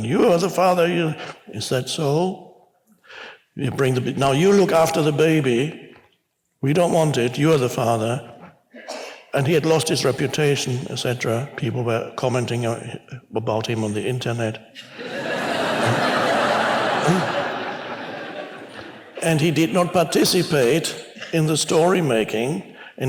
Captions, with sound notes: "You are the father." "Is that so?" "Now you look after the baby. We don't want it. You are the father." And he had lost his reputation, et cetera. People were commenting about him on the internet. (congregation laughs) And he did not participate in the story-making